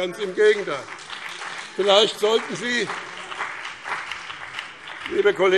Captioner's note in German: Beifall BÜNDNIS 90/DIE GRÜNEN und vereinzelt CDU